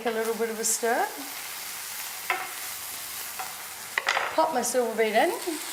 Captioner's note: pan sizzling